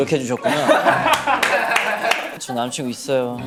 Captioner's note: hahahahaha